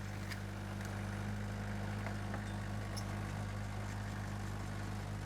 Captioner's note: engine running calmly